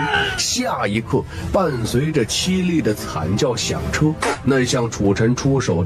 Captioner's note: piercing scream